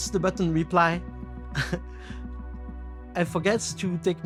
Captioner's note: chuckles